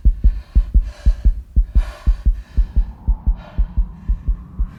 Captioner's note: continuous heartbeat